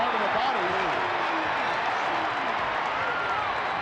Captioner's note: crowd cheering